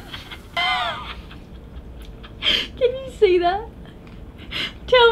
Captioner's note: laughing